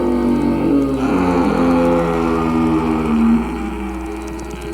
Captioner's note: growling fades